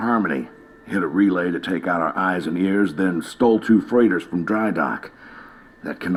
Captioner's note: radio